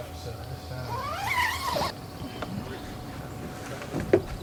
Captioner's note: tent zipping closed